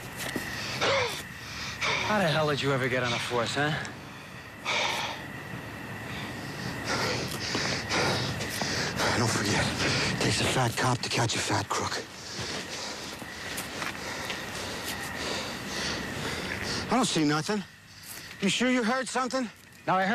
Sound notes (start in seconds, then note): 0.4 breathes heavily